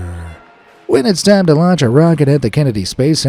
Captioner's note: in normal voice